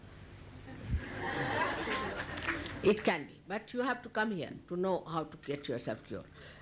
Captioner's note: laughter